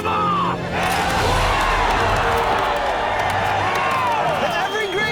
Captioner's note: crowd Cheering